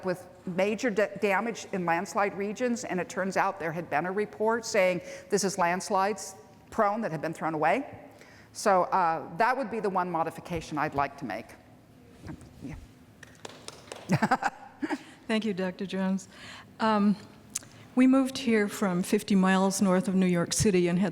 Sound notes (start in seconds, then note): 13.2 clapping; 14.0 laughs